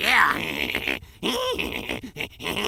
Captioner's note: Weevil chuckling